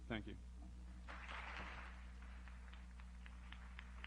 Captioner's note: applause